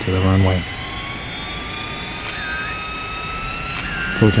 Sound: plane engines rev

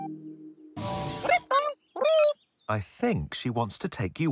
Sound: electronic chattering

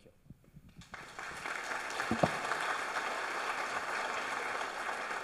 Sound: audience applauds

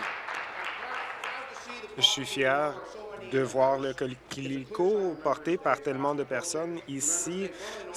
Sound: applause

